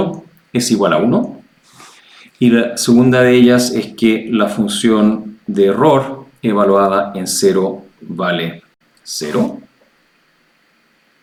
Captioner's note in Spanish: resoplido